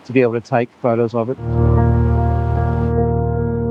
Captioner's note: wind blowing